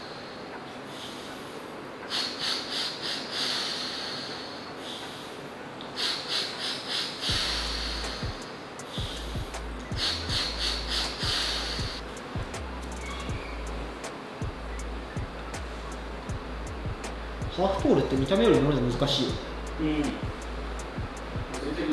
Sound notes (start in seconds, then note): 2.0 Tomoa is continuously taking a big breath